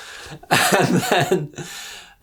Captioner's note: laugs